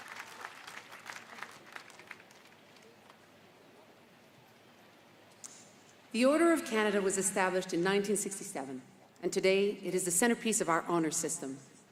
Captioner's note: applause; speaking indigenous language